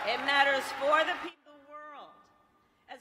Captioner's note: applause